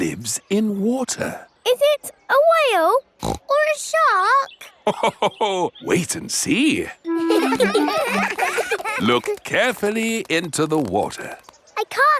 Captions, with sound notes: It lives in water. Is it a whale? (SNORTS) Or a shark? (LAUGHS) Wait and see! (CHILDREN LAUGHING) Look carefully into the water.